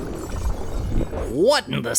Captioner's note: loud mechanical sound like gears grinding